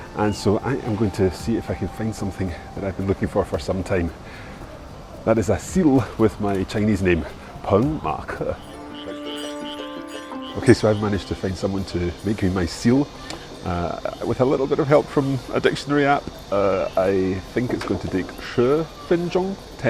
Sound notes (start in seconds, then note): 7.9 speaks in foreign language; 9.5 bright string music; 18.4 speaks in foreign language